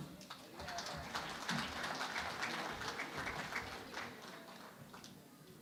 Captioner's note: applause